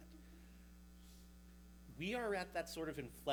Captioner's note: mic humming